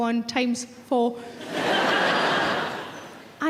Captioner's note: audience laughing